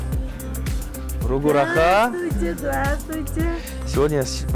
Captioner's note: speaks another language